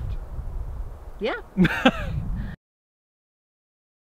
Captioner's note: laughs